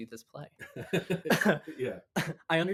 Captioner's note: laughing